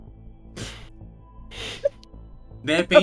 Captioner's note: laughs